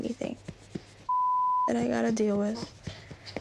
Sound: beep

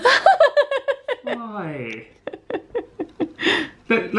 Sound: laughing

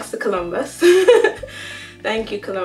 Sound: laughter

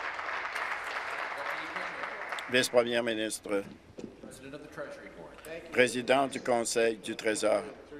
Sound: applause

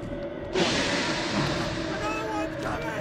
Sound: Walrider hisses

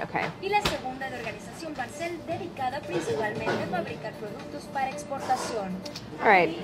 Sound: narrator speaking in foreign language

